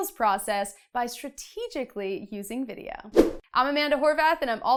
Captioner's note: air whooshes